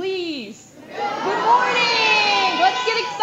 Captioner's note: audience response